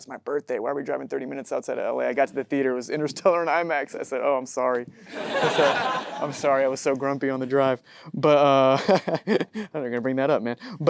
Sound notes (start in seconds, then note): 5.1 audience laughing; 8.3 laughs